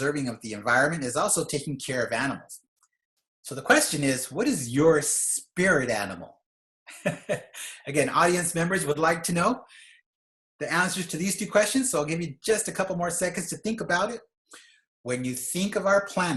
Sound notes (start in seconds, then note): 7.0 laughs